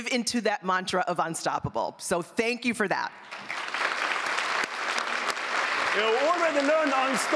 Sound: applause

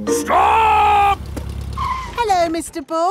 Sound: brakes squeal

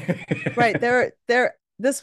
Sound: laughs

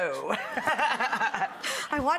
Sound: everyone laughs

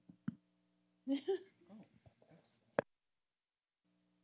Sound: laughs

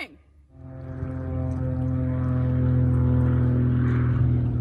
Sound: airplane buzzing

